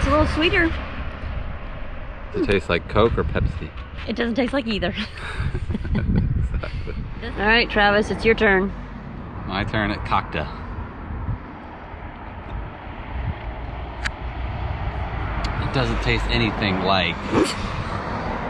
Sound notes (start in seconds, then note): 4.8 laughing